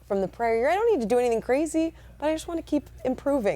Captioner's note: none